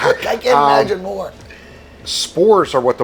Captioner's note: laughing